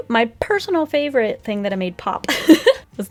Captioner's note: laughs